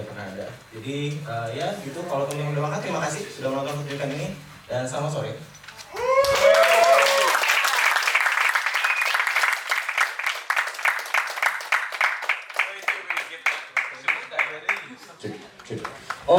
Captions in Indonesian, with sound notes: pernah ada jadi ee ya gitu kalau teman-teman sudah makan terima kasih terima kasih sudah menonton ini dan selamat sore. [Tepuk tangan]